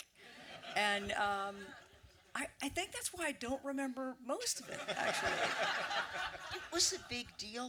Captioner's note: audience laughter